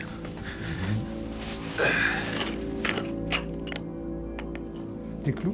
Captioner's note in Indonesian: suara menggali